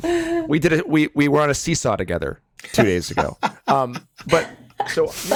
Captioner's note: Dean laughs